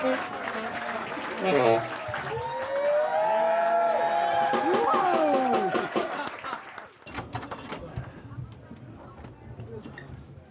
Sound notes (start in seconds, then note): 2.8 cheering